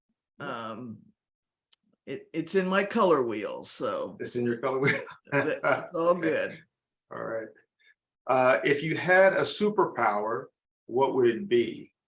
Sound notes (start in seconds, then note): 4.8 laughs